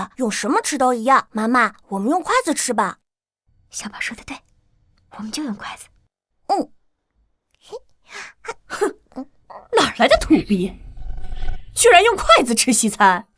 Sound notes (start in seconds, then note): 9.5 snorts disdainfully